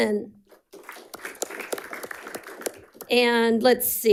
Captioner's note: audience applauding